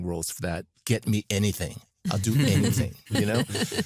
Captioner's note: laughter